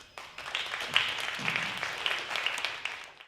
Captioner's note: applause